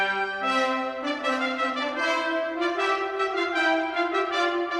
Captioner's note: none